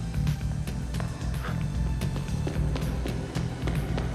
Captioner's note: suspenseful music continues; footsteps tapping; Dominic gasps; suspenseful music continues